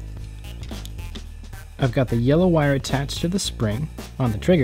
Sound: none

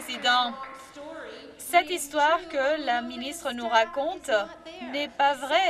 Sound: some Applause

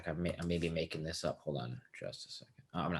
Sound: none

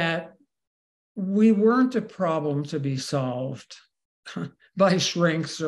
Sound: laughs

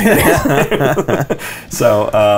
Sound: laughter

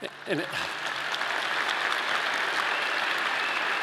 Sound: audience clapping

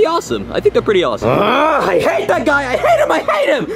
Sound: grunts

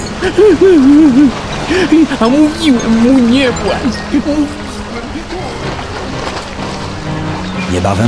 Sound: sobbing

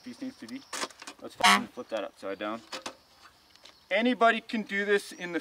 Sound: horn honks

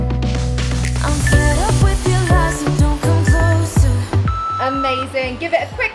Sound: timer beeps

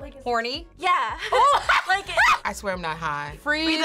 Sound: laughs

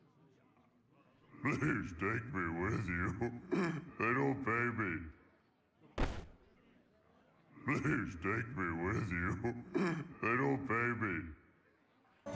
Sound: sobs

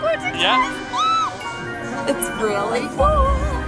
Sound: squeals

